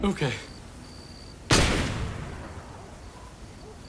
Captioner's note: gun bangs